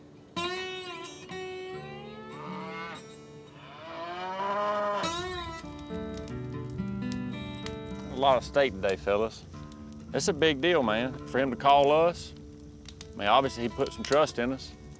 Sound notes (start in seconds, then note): 5.2 fire crackling